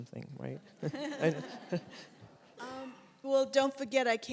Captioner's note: all laugh